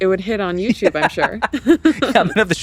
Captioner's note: laugh